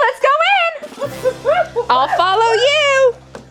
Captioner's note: exciting gorilla sounds